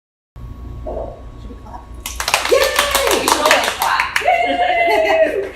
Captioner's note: clapping